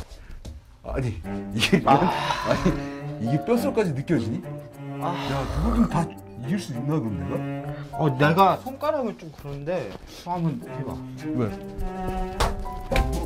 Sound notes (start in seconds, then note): 4.8 moaning